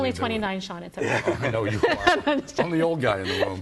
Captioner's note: laughs